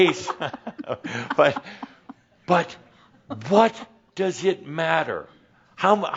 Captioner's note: she giggles